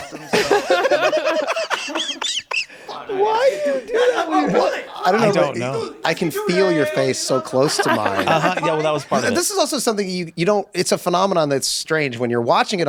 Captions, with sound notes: - Yeah, Dooley's dead. Yeah, he offed himself, (group laughs) - Why do you do that with your -- - I don't know. - I can feel your face so close to mine. - Uh huh, yeah, well that was part. - This is also something you, you don't,